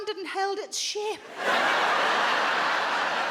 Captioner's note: audience laughs